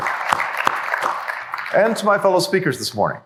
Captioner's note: applause